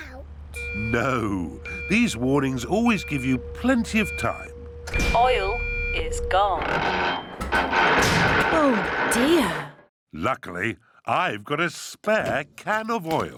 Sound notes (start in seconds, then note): 6.3 creaking